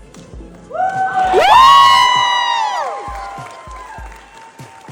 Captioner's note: crowd cheering and clapping x2